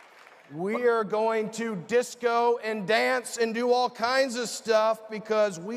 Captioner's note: cheering and applause